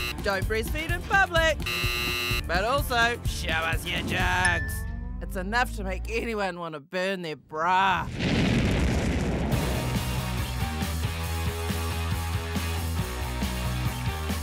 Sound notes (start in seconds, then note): 1.5 buzzer buzzes; 8.0 fire roars